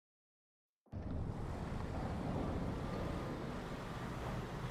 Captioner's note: traffic whirring